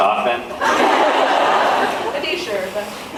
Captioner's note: laughs